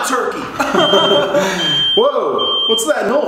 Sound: beep

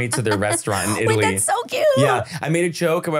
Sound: laughing

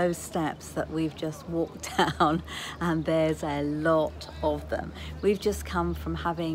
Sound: laughs

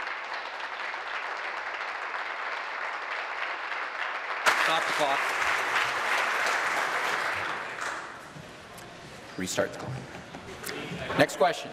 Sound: applause

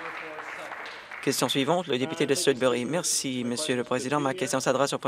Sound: some Applause

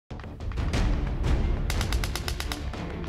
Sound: gunfire

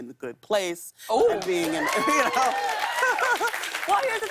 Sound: cheers and applause

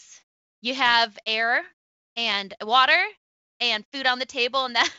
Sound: laughs

